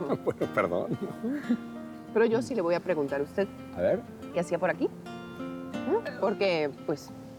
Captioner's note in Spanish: Risas